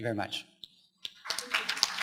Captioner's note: applause